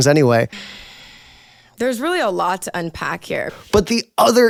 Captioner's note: sigh